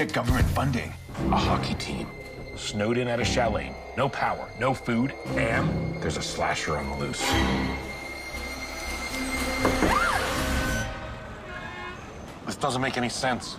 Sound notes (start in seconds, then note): 9.8 scrms; 11.5 door creaks